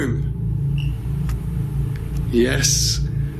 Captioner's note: device beeps